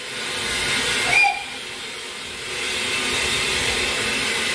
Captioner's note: train Whistle